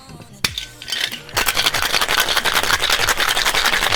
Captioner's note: ice shaking